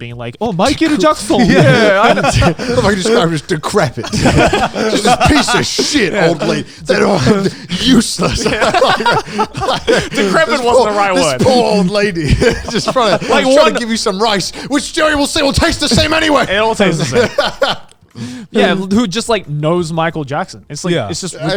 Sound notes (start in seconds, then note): 4.2 laughing; 8.6 all laughing